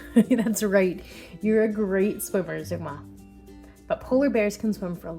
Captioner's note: laughing